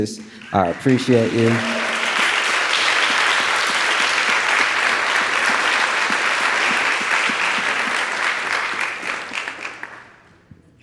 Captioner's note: audience applauding